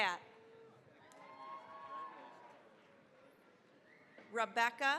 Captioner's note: cheering, applause